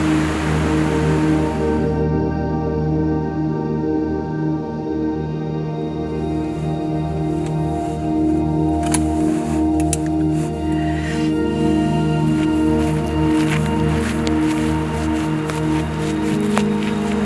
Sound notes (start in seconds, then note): 0.0 wind blowing; 8.7 pen clicking; 13.0 footsteps crunching